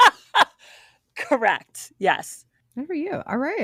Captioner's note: laughing